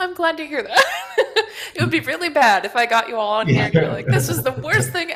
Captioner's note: laughs